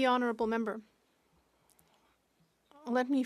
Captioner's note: speaking French